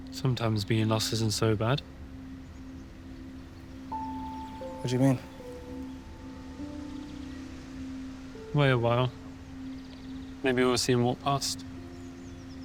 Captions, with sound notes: - Sometimes, being lost isn't so bad. - What do you mean? (sentimental music) (birds chirping) - Wait a while, maybe we'll see him walk past.